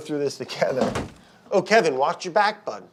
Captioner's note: object smashing